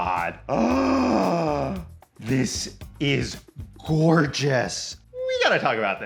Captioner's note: gasps